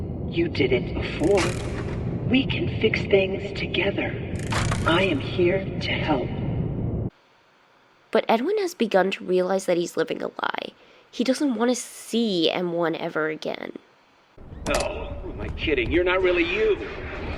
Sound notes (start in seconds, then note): 0.1 M1, using Fiona's voice